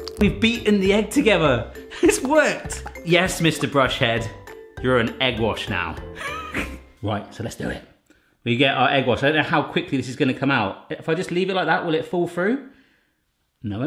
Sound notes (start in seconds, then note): 6.2 chuckles